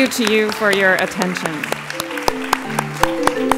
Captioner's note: applause